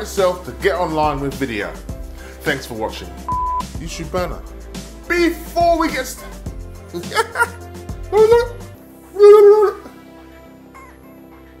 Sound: laughing

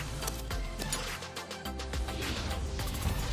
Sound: whoosh; upbeat music

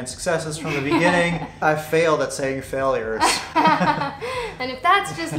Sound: laughs

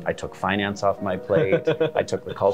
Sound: laughing

